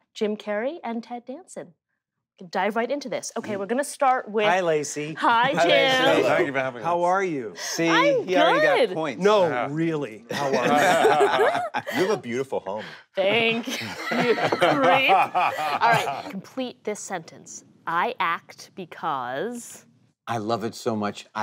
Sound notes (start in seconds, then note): 10.2 group laughing